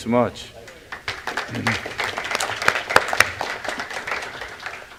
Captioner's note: applause